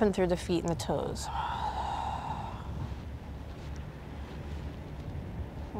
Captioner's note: blows out breath